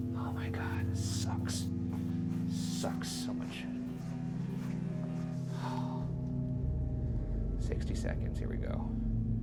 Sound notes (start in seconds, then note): 5.5 huffing